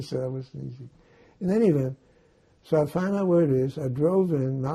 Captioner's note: mumbling